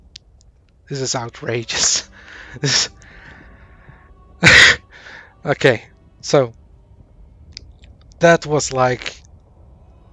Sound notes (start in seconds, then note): 4.4 laughs in disbelief; 4.5 more laughing